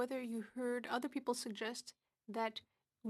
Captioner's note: speaking French